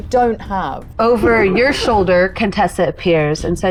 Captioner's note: chuckling